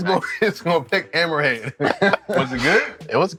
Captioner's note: chuckling